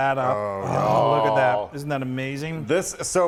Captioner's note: both exclaiming